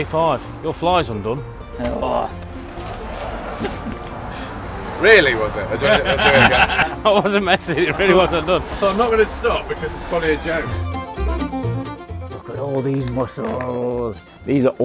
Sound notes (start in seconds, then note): 1.9 grunts; 6.0 everyone laughs; 10.3 upbeat music plays